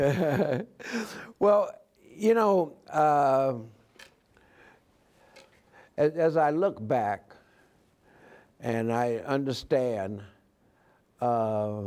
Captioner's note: laughs